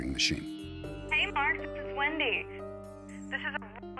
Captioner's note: on answering machine